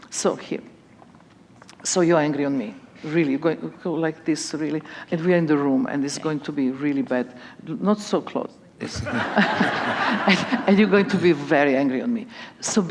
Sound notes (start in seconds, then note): 8.9 laughter